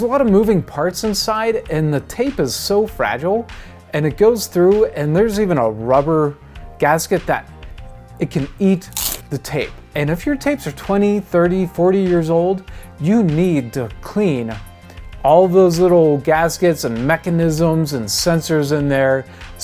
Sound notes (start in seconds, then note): 8.9 crunch eating sound